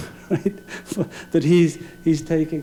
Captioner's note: laughing